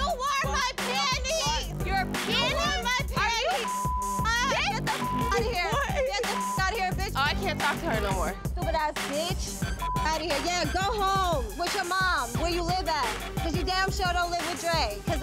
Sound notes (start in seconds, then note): 3.5 beep; 9.8 beep